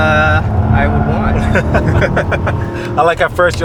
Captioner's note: laughter